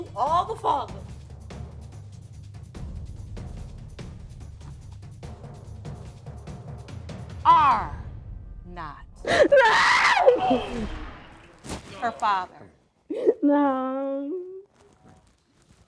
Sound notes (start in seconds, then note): 13.1 sobbing